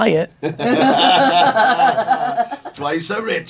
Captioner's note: everyone laughing